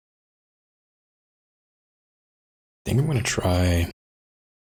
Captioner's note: blank Audio